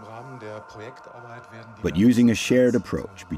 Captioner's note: speaking in a foreign language